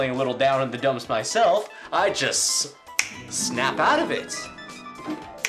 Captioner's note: snaps